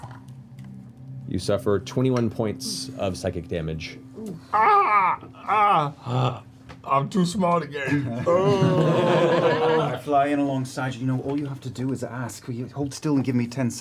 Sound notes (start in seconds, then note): 4.2 yelps; 7.9 laughter